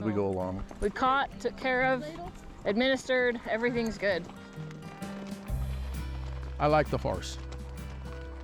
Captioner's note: chatting